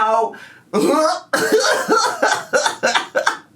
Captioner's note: gags